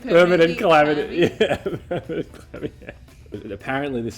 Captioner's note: laughs